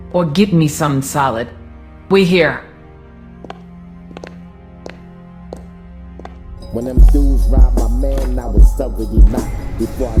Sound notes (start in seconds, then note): 3.4 footsteps fall; 3.9 dramatic music